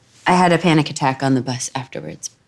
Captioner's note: none